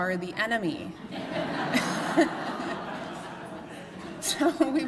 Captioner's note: laughter